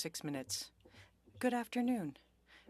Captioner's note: speaking French